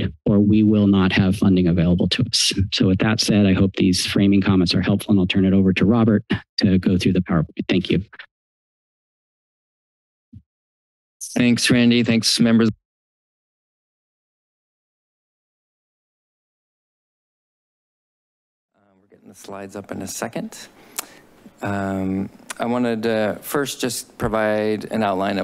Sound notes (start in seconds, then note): 14.2 silence